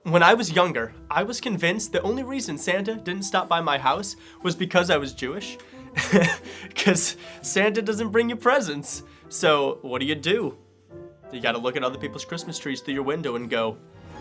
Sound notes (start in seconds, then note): 6.0 laughs; 13.8 dramatic music